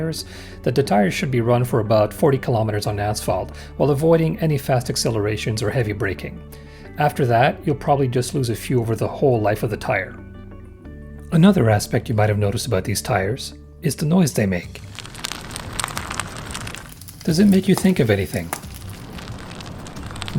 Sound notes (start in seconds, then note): 14.8 sound of studs rolling on pavement; 16.6 sound of bacon frying